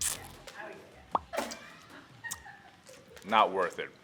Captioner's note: Joe spits